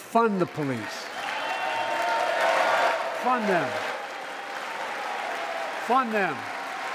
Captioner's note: applause